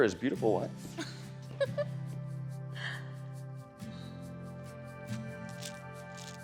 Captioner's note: soft warm music; Candace laughs